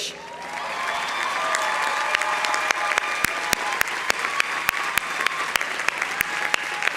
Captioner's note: audience cheering; audience applauding